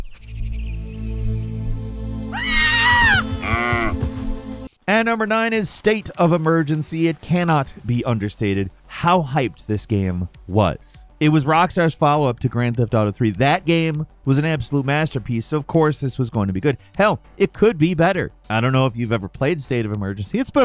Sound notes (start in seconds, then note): 0.1 gentle mysterious music; 2.3 child screams; 2.3 cow moos